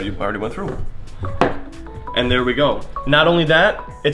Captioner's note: phone ringing